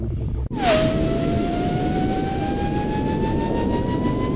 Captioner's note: spacecraft whirring